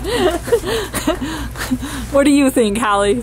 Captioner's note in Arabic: ضحك